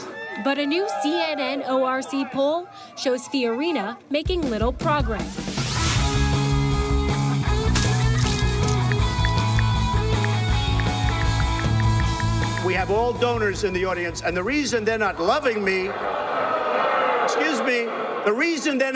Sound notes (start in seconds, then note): 5.7 upbeat rock music; 10.0 ticking; 16.1 crowd booing